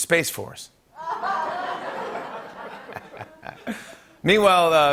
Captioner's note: laughter